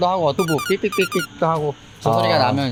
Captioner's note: beep-beep-beep; ding-a-ling